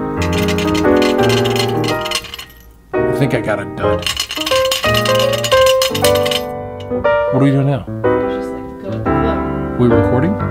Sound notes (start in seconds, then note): 0.0 metal clanking; 3.9 metal clanking